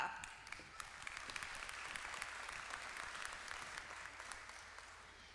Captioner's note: applause